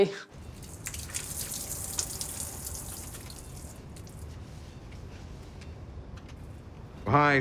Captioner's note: water drips